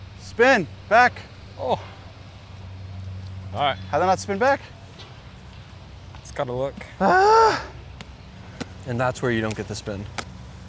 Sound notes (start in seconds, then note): 7.0 loud Sigh